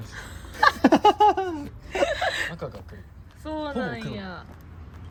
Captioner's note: laughs